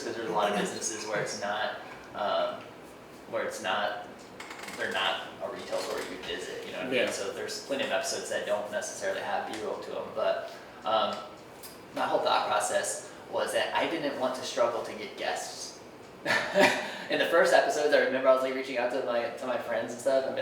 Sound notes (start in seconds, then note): 16.2 laughing